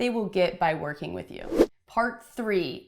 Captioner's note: whooshing